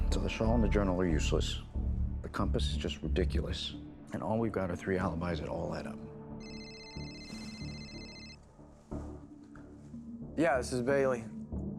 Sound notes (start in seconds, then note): 6.4 phone ringing